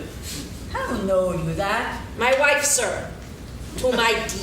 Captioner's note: laughing